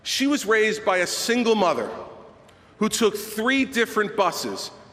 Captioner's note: none